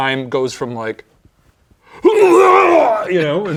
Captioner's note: vomiting